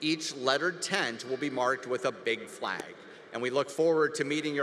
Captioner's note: none